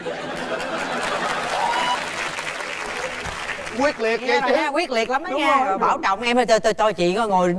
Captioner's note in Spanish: Aplaudir